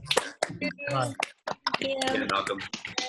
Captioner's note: clapping